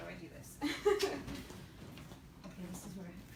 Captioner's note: laughs